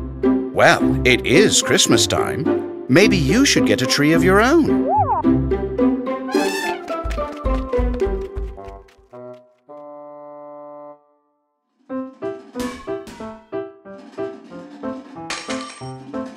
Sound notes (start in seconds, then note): 6.3 Elly trumpets